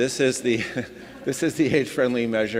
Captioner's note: audience laughing; laughing